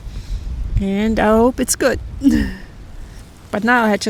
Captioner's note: laughs